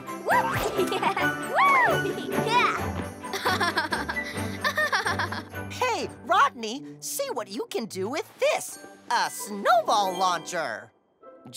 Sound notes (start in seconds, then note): 1.0 laughs; 3.3 Rodney laughs